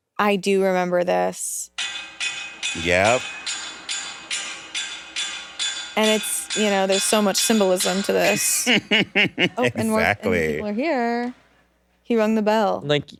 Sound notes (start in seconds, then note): 3.3 metal clanking; 8.3 laughs